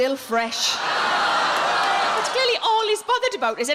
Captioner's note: audience gasps